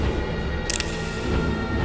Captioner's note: gun cocks